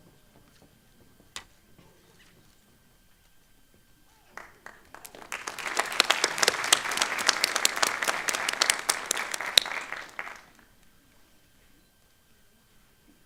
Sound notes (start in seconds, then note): 6.0 applause